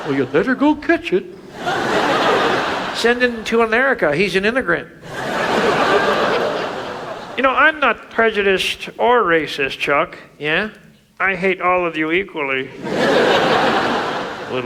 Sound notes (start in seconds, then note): 1.5 audience laughs; 5.0 audience laughs; 12.7 audience laughs